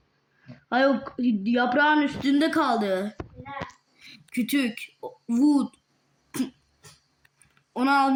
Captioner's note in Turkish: boğazını temizler